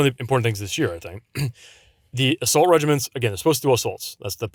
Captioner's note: clears throat